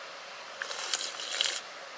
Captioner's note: slurp slurp